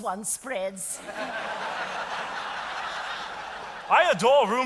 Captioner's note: audience applauding